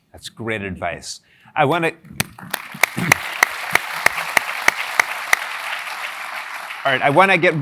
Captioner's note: applause